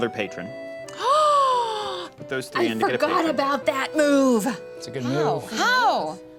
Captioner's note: gasps